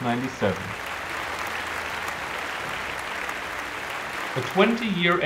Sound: applause

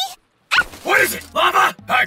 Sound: scared Priestess Noises

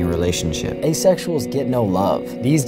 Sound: voiceover

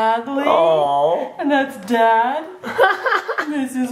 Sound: dad laughs

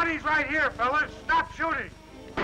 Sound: gunshots

